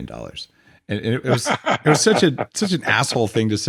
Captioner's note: laughs